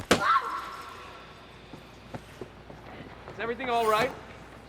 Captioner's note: woman cries out